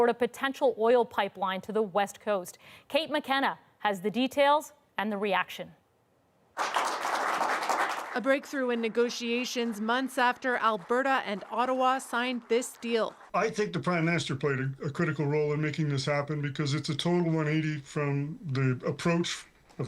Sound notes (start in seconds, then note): 6.5 applause